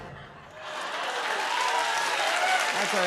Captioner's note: cheers and applause